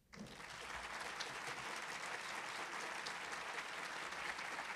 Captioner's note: audience applauding